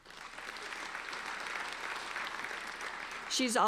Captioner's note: applauding